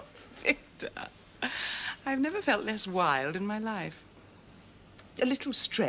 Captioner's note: laughs; sighs